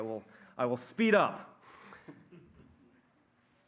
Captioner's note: laughter